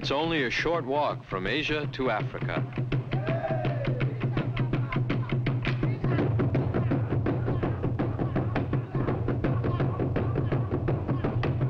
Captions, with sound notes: It's only a short walk from Asia to Africa. (rhythmic drum music) (men chanting) (rhythmic drum music)